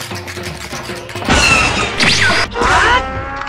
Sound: tap dancing; ATAT blaster sound effect; OOT Link HAAAAT sound effect

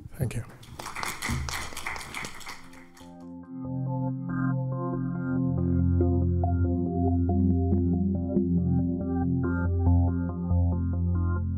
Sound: applause

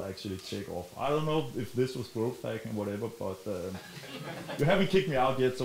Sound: chuckling

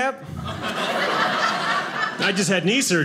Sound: audience laughing

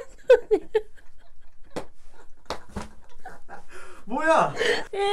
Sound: she suddenly cries

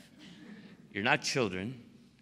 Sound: laughter

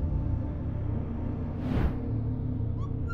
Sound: woosh

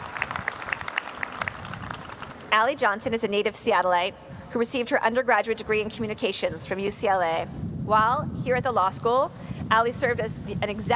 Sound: applause

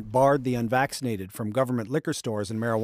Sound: speaking French

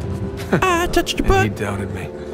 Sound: high-pitched voice

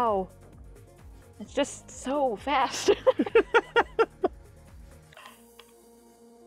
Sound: laughing

